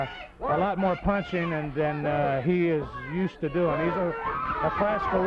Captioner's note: crowd clamoring